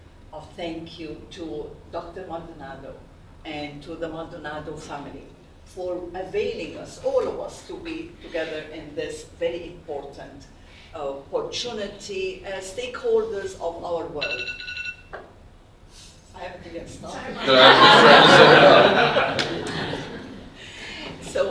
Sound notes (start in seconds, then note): 14.2 alarm rings; 17.2 audience laughs